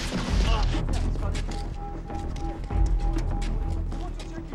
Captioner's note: distant chatter